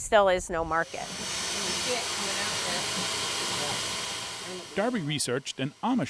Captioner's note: machine whirring